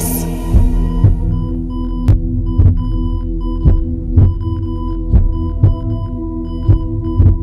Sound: beeping

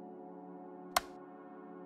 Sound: click

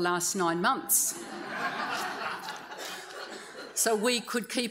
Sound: audience laughs

